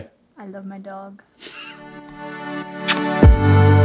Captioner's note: laughs; upbeat music